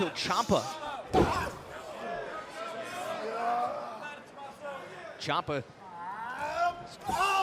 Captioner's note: crowd chatter